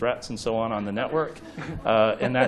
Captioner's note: chuckles